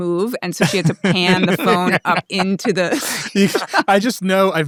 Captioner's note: laughs